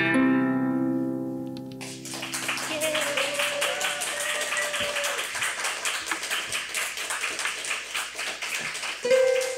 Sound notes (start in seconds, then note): 1.7 audience clapping; 9.0 harp playing